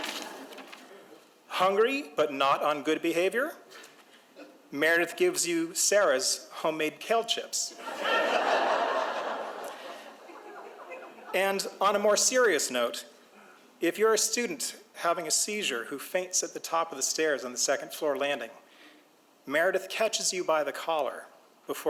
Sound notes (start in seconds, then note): 0.0 audience chuckles; 7.8 audience laughs